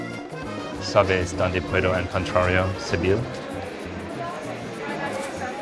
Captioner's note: speaking Spanish